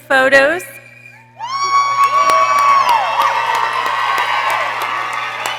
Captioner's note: people cheering